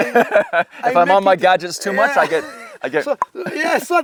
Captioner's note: laughing; clicks tongue